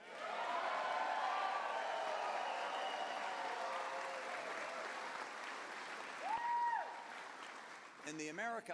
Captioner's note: cheers